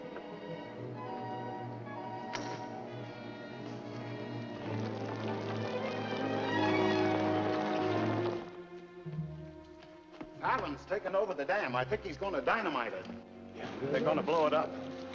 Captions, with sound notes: (men scrambling) - Fallon's taken over the dam, I think he's gonna dynamite it. - They're gonna blow it up?